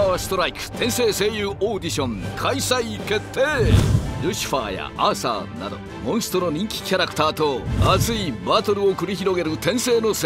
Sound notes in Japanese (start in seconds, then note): none